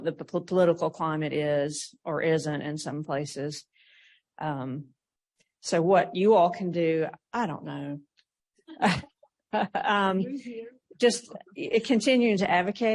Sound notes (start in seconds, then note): 8.5 laughs; 8.7 laughter